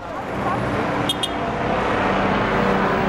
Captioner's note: taxi honks